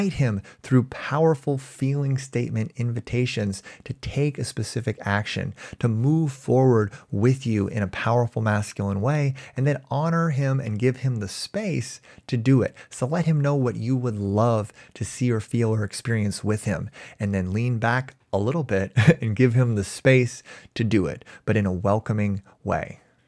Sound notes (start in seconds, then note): 19.0 chuckles